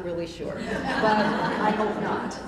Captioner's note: laughter